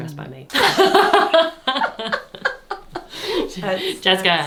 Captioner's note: laughing